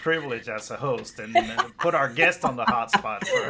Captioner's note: laughs